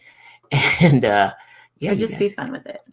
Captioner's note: laughs